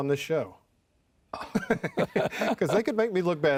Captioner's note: laughs